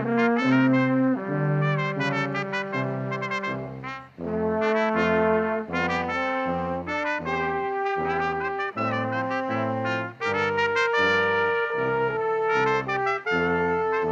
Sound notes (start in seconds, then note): none